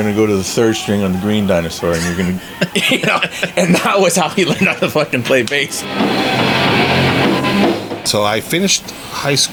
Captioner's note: laughs